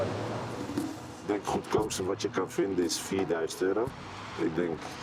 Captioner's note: Dutch spoken audio